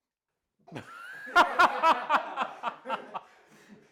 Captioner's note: everyone laughs at them